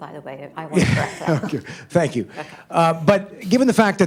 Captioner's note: laughs